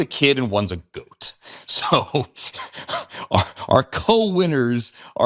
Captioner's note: chuckling